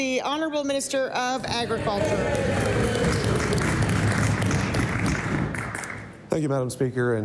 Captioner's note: some Applause